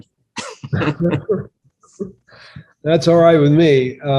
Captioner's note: laughter